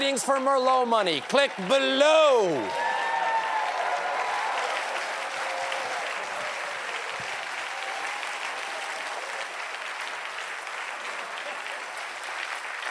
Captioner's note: cheers and applause